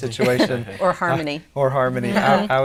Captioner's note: laughing